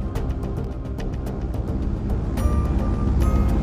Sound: airplane Engine Sounds

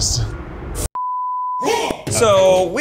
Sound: beeping

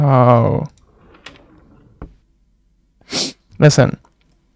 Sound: drawers sliding

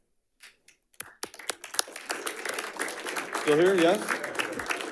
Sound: audience applauding

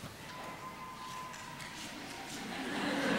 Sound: siren in background; laughter

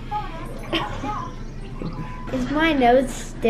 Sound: laughs

